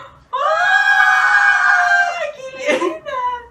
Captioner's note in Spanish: gritos de ternura